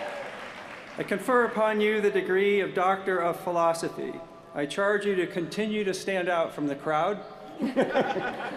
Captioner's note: cheers & applause